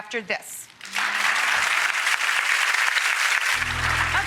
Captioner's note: audience clapping